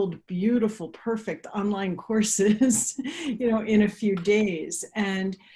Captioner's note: chuckles